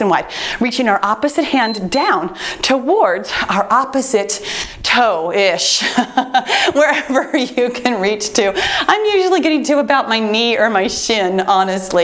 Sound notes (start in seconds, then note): 1.5 timer beeps; 5.8 laughs